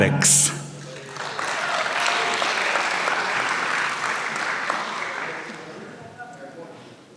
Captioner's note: applause